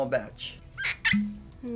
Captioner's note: cork popping